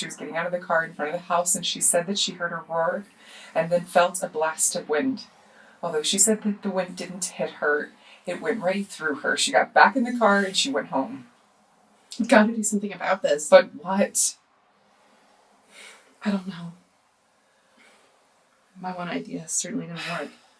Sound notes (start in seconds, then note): 15.8 sighs